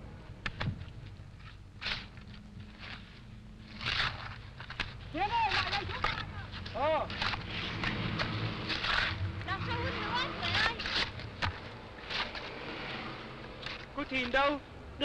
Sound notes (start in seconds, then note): 5.6 talking in foreign language